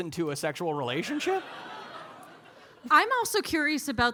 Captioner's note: audience laughing